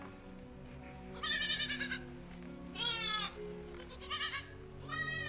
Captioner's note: sheep bleating